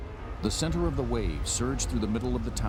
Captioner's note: voiceover